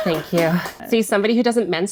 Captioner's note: people clapping